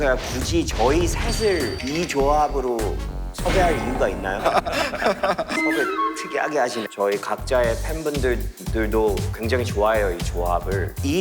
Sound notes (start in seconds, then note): 4.4 haha